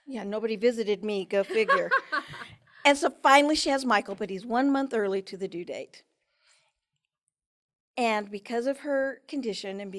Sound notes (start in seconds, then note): 1.5 laughs